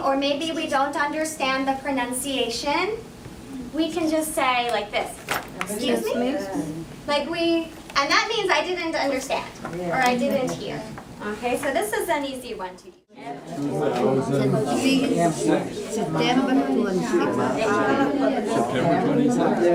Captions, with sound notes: or maybe we don't understand the pronunciation, we can just say like this, excuse me? Like we, and that means, I didn't understand or I didn't hear. Okay, so this is an easy one to... (indistinct conversation)